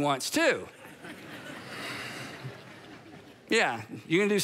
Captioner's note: congregation laughing